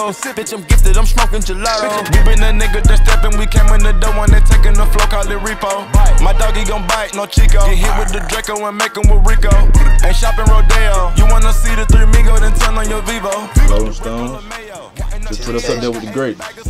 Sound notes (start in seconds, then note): 7.8 grrr